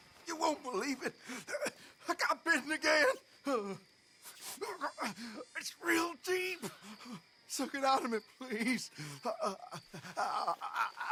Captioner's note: screams in pain